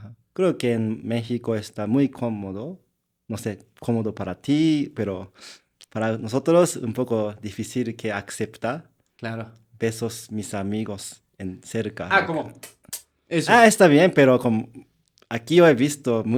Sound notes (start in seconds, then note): 8.9 laughs